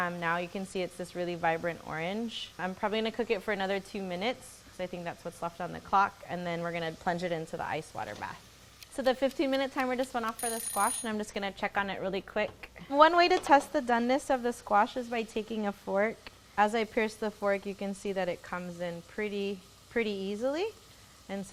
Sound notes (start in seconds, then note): 10.5 buzzer dings